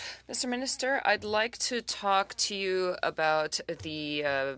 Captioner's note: speaking French